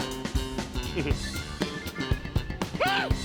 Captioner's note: chuckles